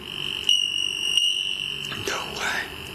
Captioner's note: device beeping